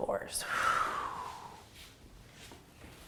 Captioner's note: exhaling